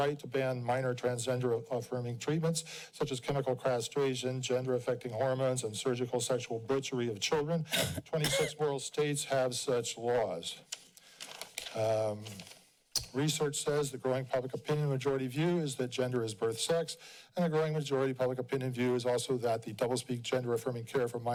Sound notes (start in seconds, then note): 10.7 pages shufling